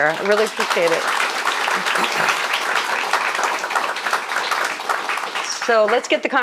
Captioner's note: audience applauding